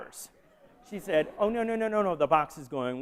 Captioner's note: laughter